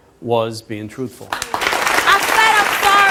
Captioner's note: audience applauds